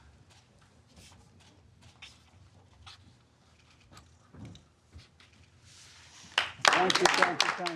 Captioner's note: applause